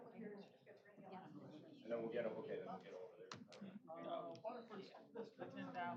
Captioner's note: off-mic chatter